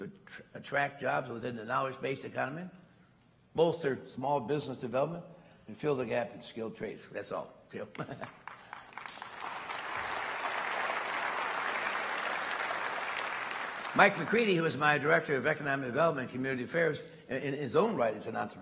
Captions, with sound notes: attract jobs within the knowledge-based economy, bolster small business development, and fill the gap in skilled trades. That's all (Applause) Mike McCready, my director of Economic Development and Community Affairs, in his own right is an